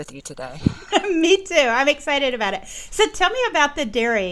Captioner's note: chuckles